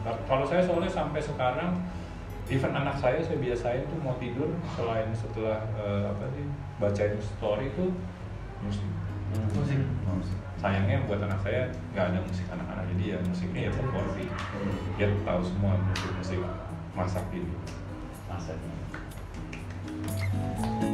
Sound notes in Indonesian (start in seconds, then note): 19.4 tepuk tangan